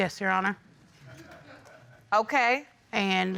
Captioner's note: audience laughing